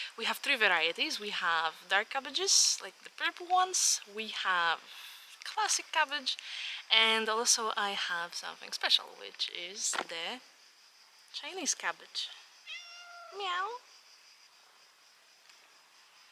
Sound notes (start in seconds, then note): 12.6 cat meows